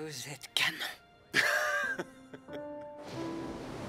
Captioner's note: laughing